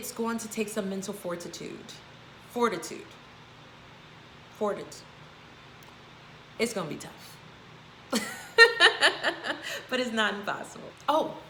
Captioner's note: laugh